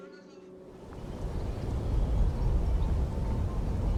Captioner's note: wind blowing; birds chirping